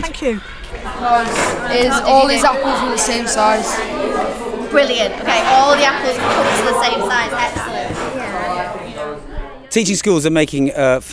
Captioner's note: classroom noise